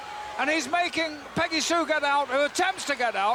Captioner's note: crowd cheers